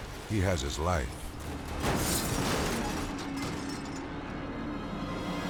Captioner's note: car crashing